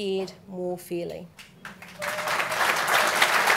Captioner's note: applause